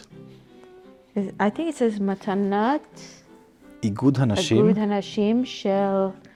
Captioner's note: Hebrew